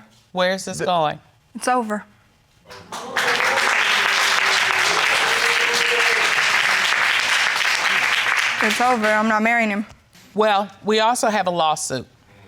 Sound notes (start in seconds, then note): 2.6 audience applauding